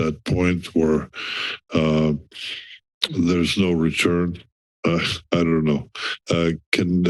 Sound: chuckles

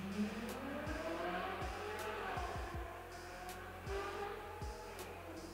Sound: engine revving

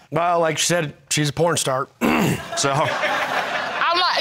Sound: clears throat; crowd laughing

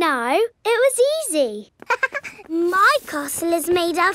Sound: chuckles

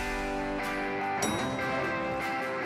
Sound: elevator dings

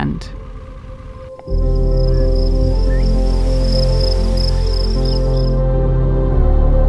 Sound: gentle music; birds and insects chirping

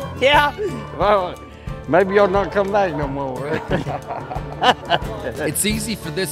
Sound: laughs

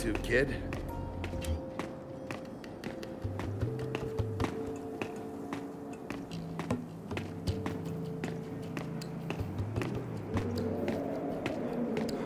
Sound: footsteps

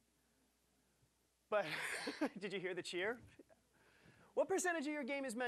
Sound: laughing

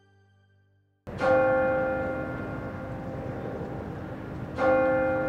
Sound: bell chiming

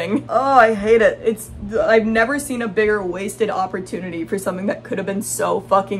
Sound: groans

